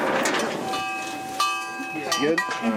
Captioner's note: cowbells jingling